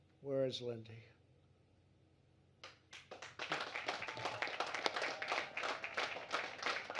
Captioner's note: applause